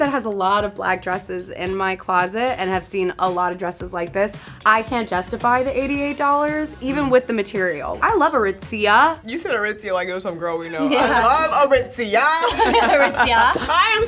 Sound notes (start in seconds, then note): 10.6 laughing; 11.2 playful music; 12.4 laughing